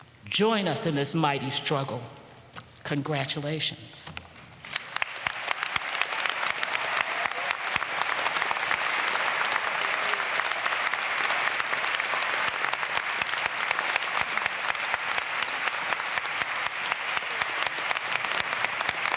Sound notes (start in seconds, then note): 4.6 applause